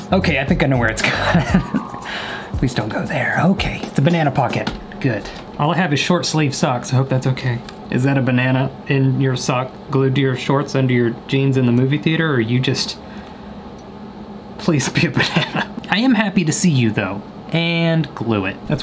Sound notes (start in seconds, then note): 1.0 laughs; 15.1 laughs